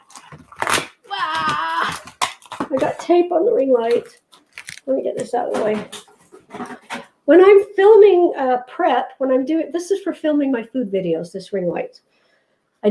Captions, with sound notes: (groaning sound) With that tape on the ring light, let me get this out of the way. When I'm filming prep, when I'm doing it, this is for filming my food videos this ring light.